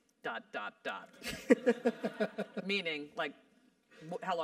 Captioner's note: laugh